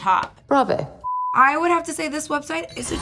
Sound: blooper beeps

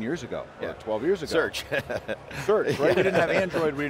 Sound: laughs

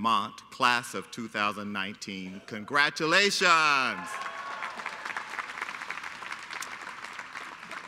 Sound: applause

